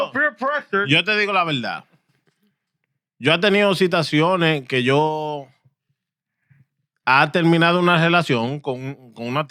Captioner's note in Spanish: Hablando en idioma extranjero